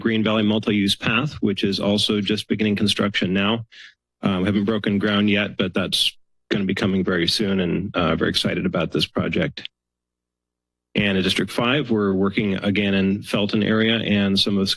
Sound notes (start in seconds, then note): 10.9 pause